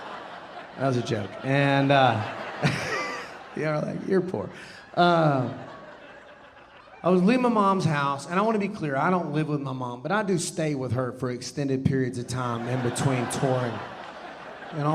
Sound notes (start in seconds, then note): 2.6 audience laughing; 2.6 laughing; 5.4 audience laughing; 13.8 audience laughing